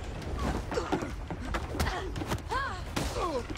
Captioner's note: both grunting